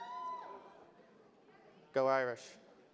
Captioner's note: audience cheers